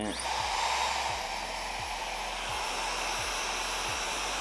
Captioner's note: blow drying